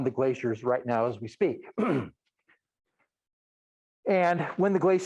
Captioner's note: clears throat